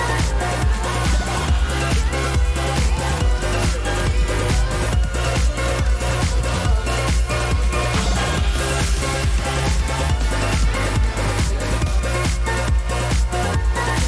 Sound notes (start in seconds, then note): 9.1 flicker